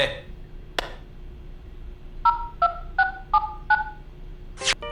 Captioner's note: click, dialing